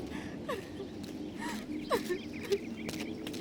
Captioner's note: sobs